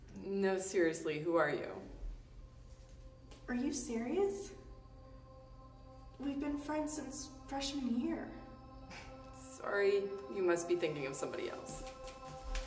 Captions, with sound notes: No, seriously, who are you? Are you serious? We've been friends since freshman year. [Scoff] Sorry, you must be thinking of somebody else.